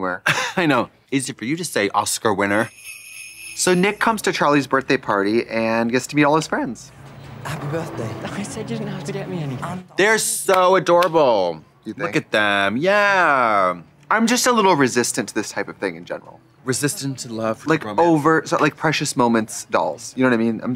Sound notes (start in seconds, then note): 1.9 sleigh bells jingling; 10.9 claps